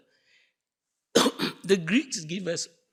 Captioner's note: coughing